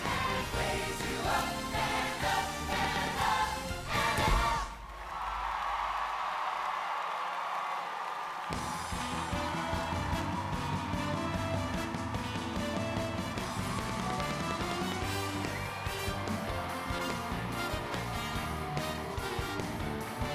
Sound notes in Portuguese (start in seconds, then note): 5.1 audience cheering and applauding; 8.7 lively music